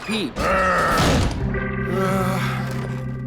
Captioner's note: growls, slams door; relieved groans